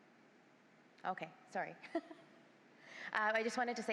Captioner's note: chuckles